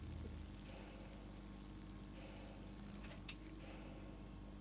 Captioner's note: Heather peeing